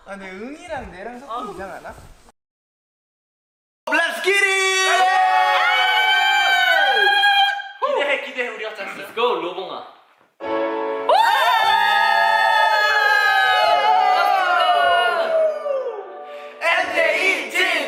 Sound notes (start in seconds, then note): 11.0 cheering